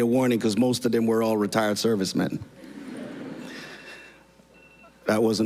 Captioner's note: phone ringing